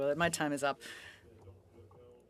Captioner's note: speaking French